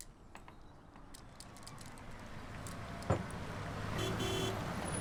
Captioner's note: vehicle pulls up; honks horn